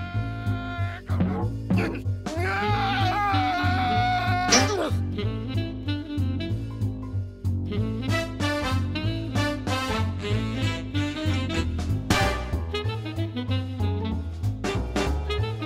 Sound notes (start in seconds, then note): 1.5 yelling